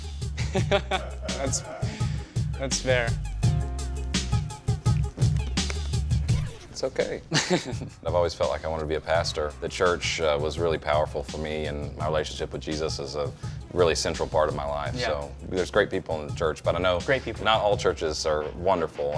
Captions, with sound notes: (laughs) That's fair. - It's okay. - (chuckles) - I've always felt like I wanted to be a pastor. The church was really powerful for me and my relationship with Jesus is a really central part of my life. So there's great people in the church, but I know... - Great people. - ...not all churches are wonderful.